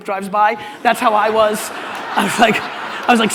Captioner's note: audience laughter